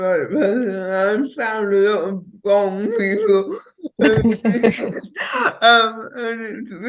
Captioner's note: both chuckling